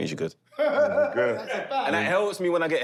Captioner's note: laughter